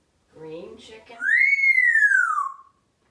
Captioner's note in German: whistling